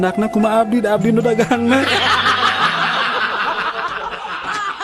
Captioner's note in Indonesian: tertawa